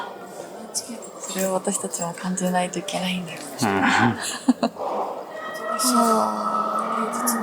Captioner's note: laughs